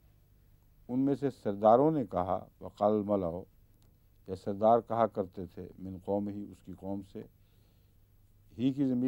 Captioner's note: Arabic